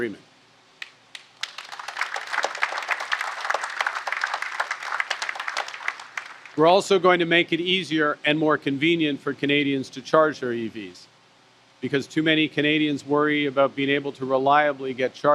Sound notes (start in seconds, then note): 1.1 applause